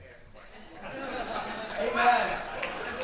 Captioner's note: audience laughing